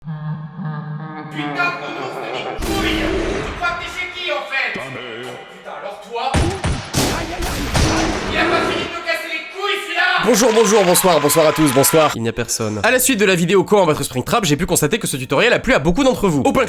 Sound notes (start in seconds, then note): 1.2 Nightmare laugh; 2.6 shot; 6.4 multiple shots + bear screaming